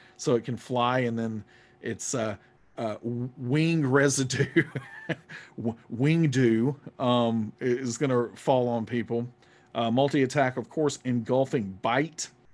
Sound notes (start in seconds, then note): 4.3 laughs